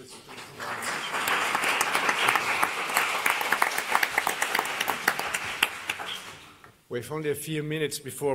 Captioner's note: applause